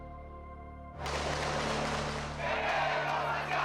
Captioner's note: gunfire; chanting in Spanish